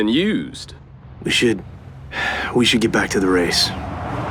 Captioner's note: sigh